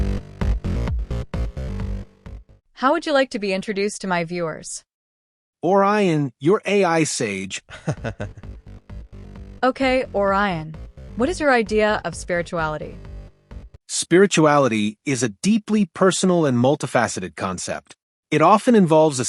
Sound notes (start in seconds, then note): 7.2 AI laughs